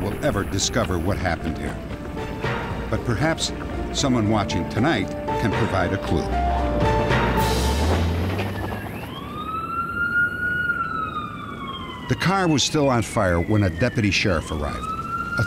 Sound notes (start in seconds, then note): 8.7 police siren